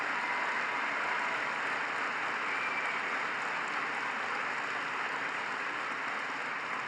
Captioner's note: applause